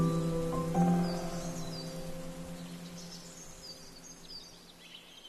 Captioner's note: forest din